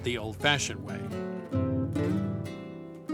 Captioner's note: speaking Spanish